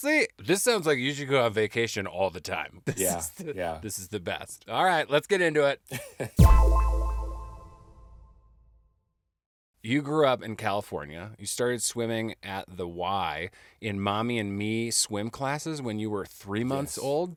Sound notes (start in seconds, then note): 6.4 sharp tone echoing